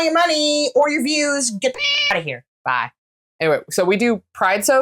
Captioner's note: meow